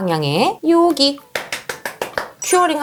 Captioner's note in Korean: 짝짝짝짝짝!